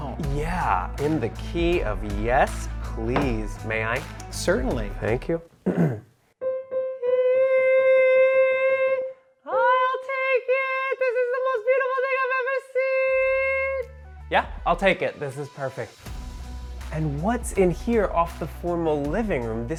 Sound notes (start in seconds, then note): 5.6 clears throat; 6.2 gentle piano music